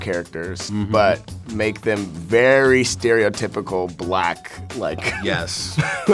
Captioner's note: laughs